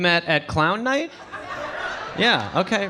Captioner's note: audience laughing